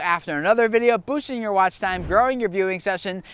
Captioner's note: air whooshing